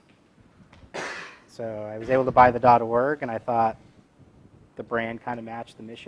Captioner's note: cough